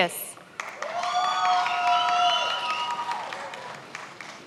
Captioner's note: many applauding